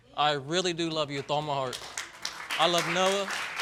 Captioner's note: audience applauds